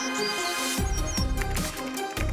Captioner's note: bird chirping